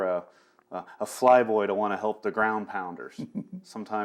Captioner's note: laughs